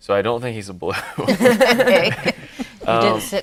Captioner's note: laughing